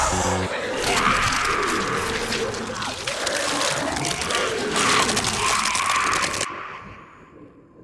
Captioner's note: snarling; Materia Keeper screaming in agony, Werewolf Vincent growling and biting